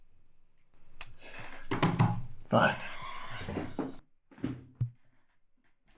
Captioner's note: hands thudding